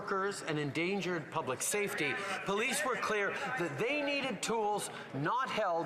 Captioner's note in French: voix de l'interprète